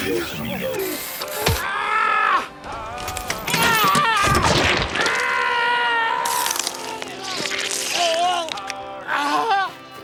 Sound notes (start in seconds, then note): 1.9 Boyd screaming; 3.7 blood squelches; 7.3 Boyd screams